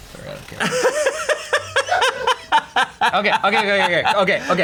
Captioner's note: laughs